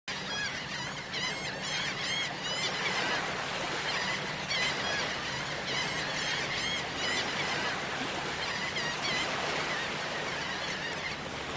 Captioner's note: seagulls Cawing